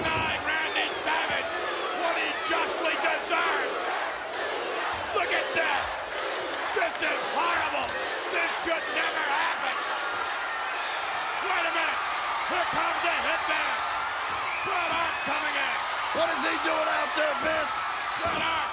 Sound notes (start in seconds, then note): 3.3 audience chanting; 12.1 audience cheers